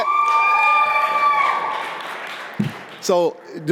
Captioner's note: audience cheering